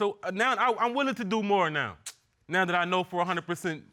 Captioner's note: clicks tongue